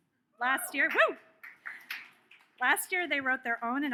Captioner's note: audience cheers